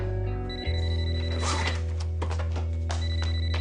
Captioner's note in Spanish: Suena celular